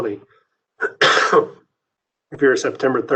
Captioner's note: coughs